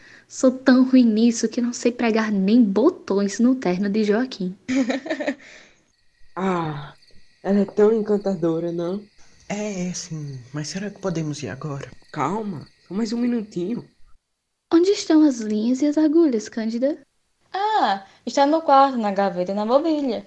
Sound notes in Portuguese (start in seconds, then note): 4.6 Risos de Cândida; 5.4 suspiro; 9.9 impaciente